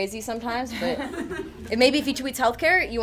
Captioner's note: audience chuckles